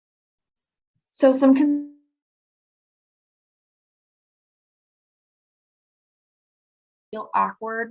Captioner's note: audio cuts out